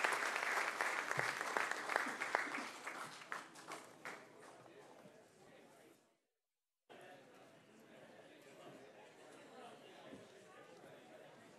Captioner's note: applause